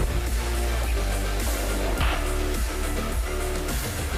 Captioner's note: explosion booms; dramatic music